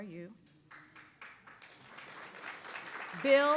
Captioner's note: audience applauds